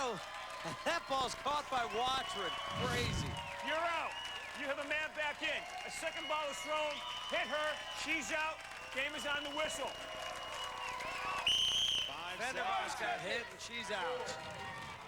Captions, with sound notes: and that ball's caught by Watrin. Crazy. out. You have a man back in. A second ball was thrown. Hit her. She's out. Game is on the whistle. [whistle blows] Fenderbosch got hit. She's out.